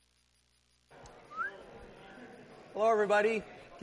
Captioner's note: whistling